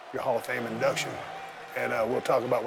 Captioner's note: crowd cheering